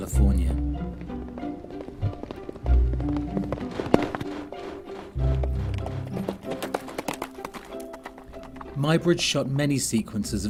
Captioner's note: sounds of horse galloping